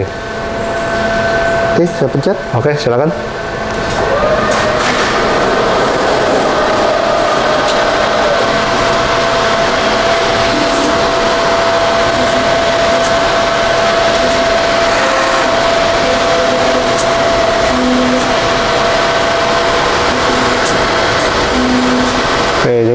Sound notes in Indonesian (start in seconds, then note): 0.0 suara mesin; 3.4 suara mesin printer